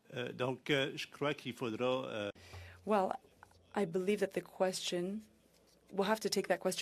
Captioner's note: speaking French